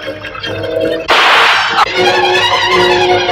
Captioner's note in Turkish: Silah sesi ve inleme